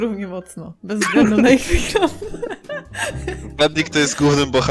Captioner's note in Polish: śmiech